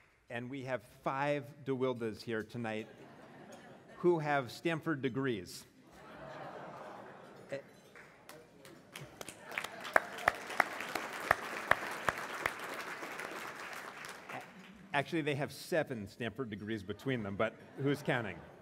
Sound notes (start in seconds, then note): 2.9 laugh; 6.0 laugh; 7.9 applause